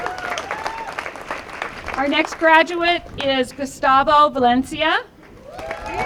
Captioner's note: applause; applause